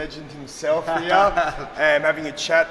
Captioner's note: laughing